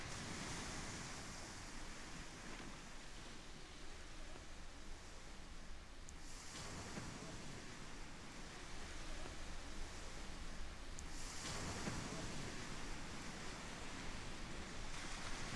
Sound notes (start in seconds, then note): 0.0 sea crashes; 11.0 sea crashes